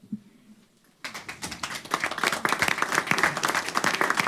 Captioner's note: applause